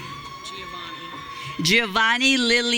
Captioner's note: audience cheering